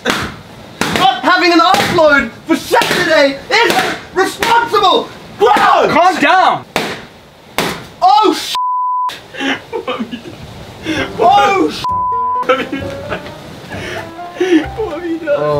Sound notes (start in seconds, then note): 9.3 laughs